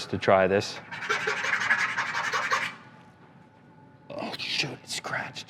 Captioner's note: metal scraping